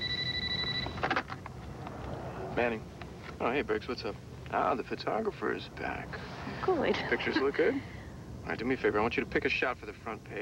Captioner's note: telephone rgs